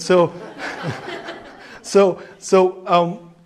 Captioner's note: laughing